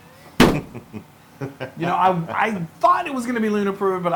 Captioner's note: laugh